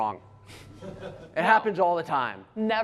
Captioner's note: laughter